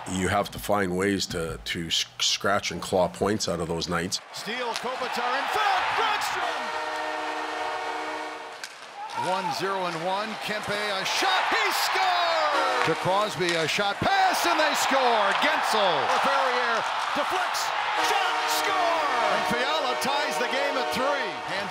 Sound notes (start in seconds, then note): 5.5 horns blowing